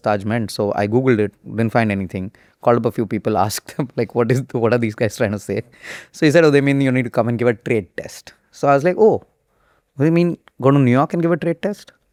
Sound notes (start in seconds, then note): 4.3 laughs